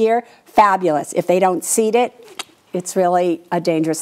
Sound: clicks tongue

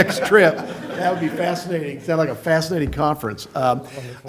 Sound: laughter

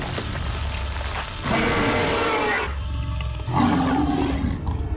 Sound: growling

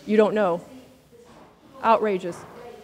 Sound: speaks quietly without mic

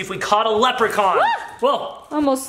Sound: exclaims

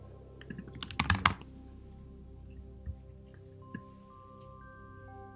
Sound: keyboard clicking

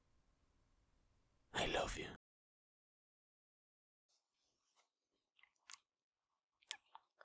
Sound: kisses

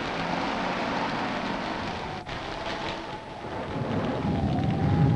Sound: engine rumbling; thunder rumbling

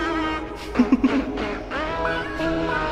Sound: laugh

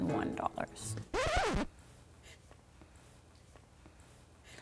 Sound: record scratch

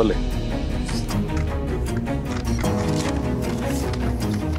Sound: paper tearing

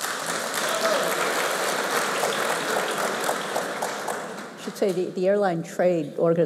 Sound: applause

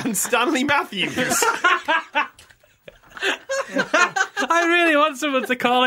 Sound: laughter

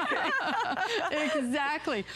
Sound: laughter

